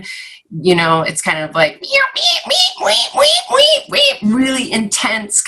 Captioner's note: mocks bird squeaking